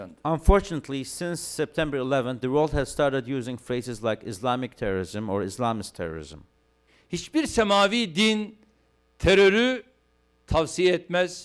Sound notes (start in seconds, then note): 8.7 non-english speech